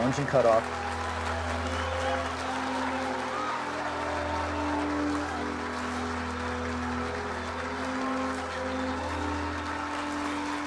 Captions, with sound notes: the final moment. (crowd cheering) We've got something. We got engine cutoff. (crowd cheering)